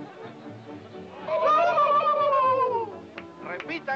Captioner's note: men howl